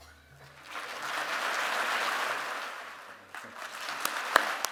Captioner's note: applause